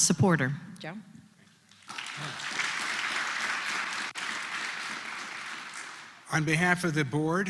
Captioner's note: applause